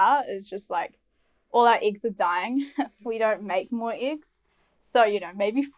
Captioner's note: laughs